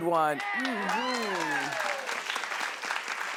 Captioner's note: clapping